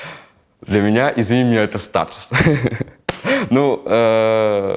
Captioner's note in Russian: Смеётся